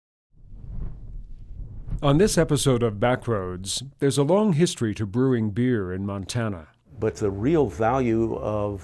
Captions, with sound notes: (wind) - [Voiceover] On this episode of Backroads, There's a long history to brewing beer in Montana,